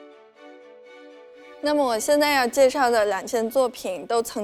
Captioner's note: Mandarin